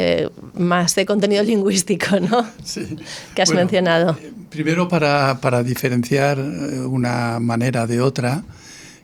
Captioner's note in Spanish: risas